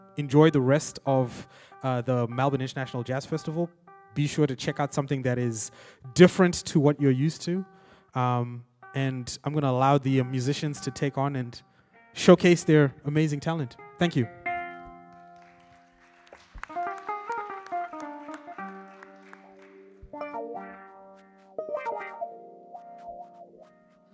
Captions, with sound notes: Enjoy the rest of the Melbourne International Jazz Festival. Be sure to check out something that is different to what you're used to, and I'm gonna allow the musicians to take on and showcase their amazing talent. Thank you. (audience applauds) (participants playing instruments)